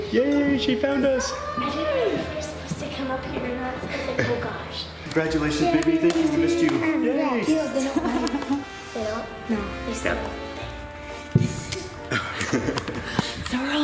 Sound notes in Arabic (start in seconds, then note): 10.8 همسات متفكك; 12.0 يضحك